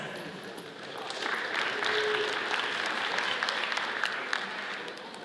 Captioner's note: audience applauds